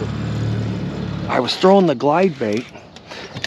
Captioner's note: boat engine idling